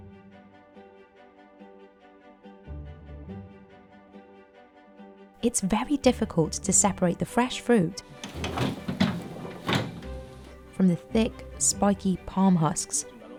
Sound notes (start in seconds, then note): 0.1 gentle dramatic music; 8.2 wheelbarrow rattles